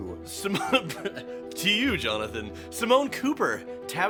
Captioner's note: chokes